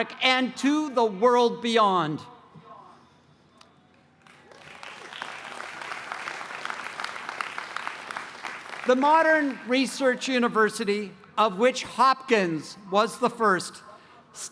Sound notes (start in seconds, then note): 4.1 applause